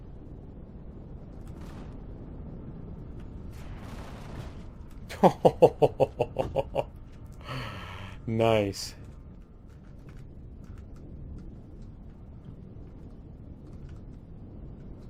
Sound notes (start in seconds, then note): 3.3 laughs; 3.4 turrets firing